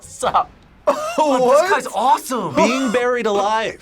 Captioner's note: laughs